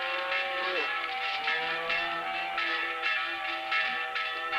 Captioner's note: bells clanging